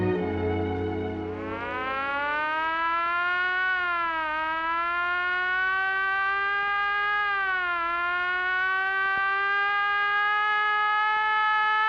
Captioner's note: siren wailing